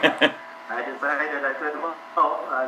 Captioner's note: laughter